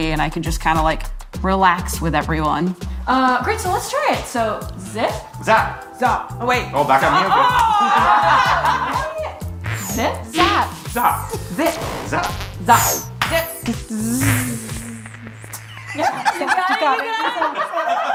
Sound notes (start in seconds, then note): 8.9 everyone chuckles